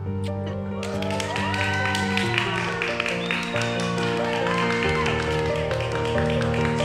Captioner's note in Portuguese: aplausos